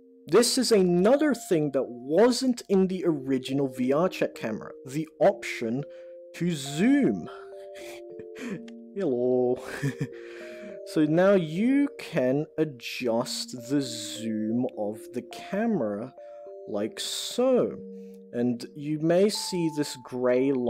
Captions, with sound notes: and this is another thing that wasn't in the original VR check camera, the option to zoom. (softly chuckles) So now you can adjust the zoom of the camera, like, so, and you may see this grey line here,